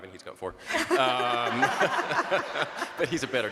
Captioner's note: group laughs